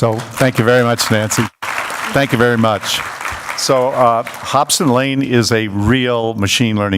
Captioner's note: applause